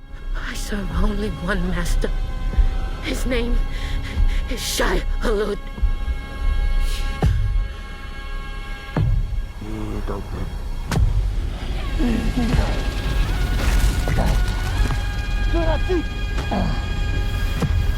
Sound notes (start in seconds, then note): 7.1 rhythmic thumping